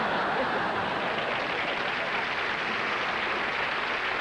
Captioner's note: applause